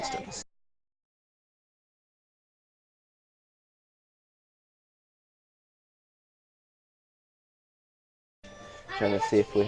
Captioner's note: silence